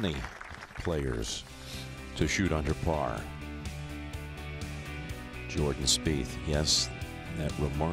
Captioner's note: applause